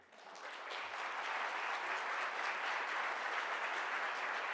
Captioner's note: audience applause